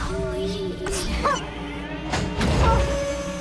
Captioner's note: gasps